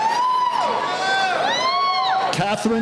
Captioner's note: cheering